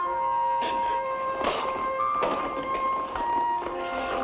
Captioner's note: man spits; somber music